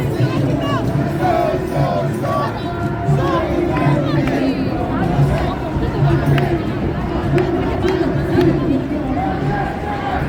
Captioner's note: chant